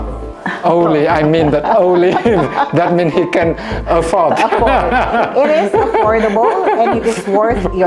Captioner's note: laugh